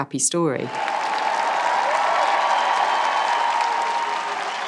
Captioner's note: cheering